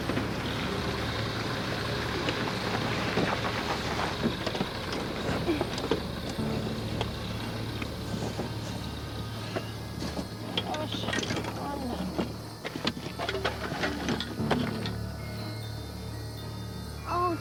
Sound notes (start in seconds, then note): 0.1 suspenseful music; 11.3 Jessica moaning; 14.4 suspenseful music